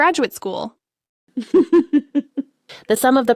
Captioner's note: laughs